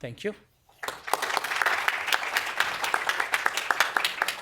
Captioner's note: applause